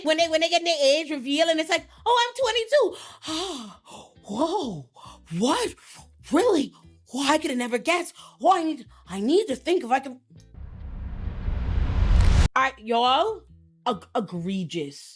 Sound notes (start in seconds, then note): 3.6 sighs; 10.5 dramatic music